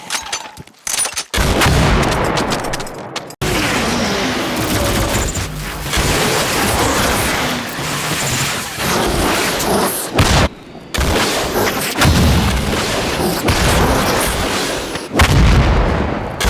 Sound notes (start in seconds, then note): 3.5 laser gunfire zapping; 12.2 demon speaking demonic language